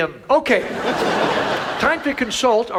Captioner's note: audience laughs